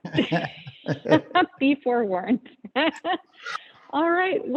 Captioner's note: laughs